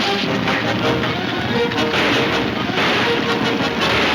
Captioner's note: gunshots banging